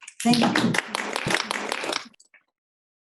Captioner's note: everyone applauding